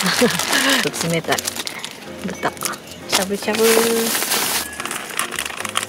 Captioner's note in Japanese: 笑い